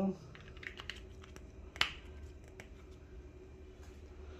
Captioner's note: closing ink bottle cap